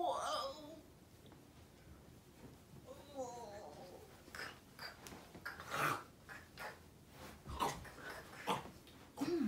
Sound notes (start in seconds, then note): 5.8 slurping